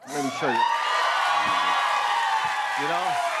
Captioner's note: cheers and applause